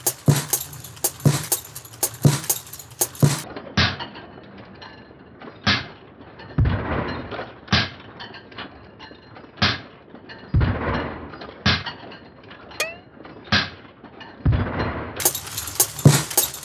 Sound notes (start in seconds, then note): 12.8 poing